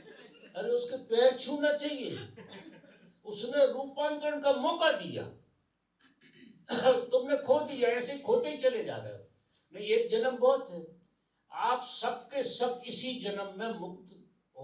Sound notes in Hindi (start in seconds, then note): 6.0 गला साफ़ करने की आवाज़